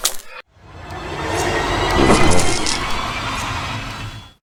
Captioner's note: strong blow next to us